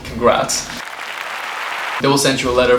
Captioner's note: applauding